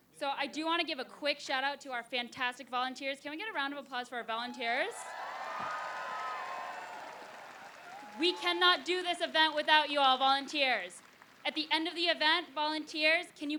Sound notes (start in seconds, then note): 4.7 applause